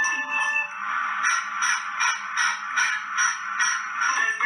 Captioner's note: engine chuffing